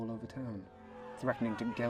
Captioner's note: sound of angry yells